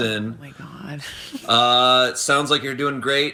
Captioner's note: laughs